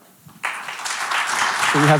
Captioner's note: audience applauding